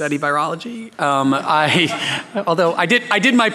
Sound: laughing

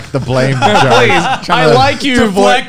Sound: laughing

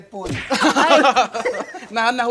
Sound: laughs

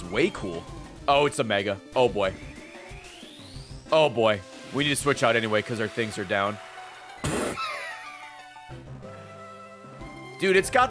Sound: laughs

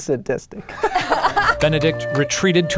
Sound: laughing

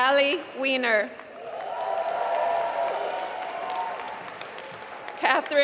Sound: applause

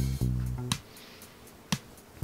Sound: sniff

